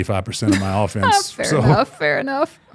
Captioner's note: laughing